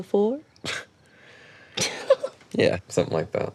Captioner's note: both chuckling